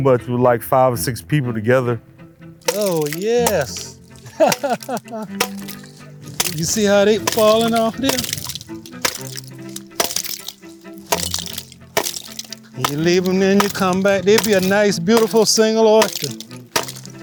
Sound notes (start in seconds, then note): 4.2 laughs; 5.9 larvae cracking